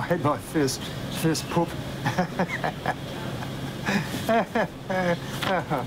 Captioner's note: chuckling